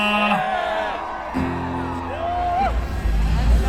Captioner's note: crowd cheers